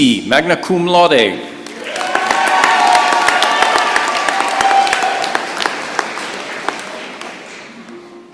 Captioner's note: cheering and applause